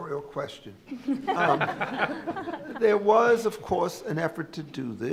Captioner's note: laughter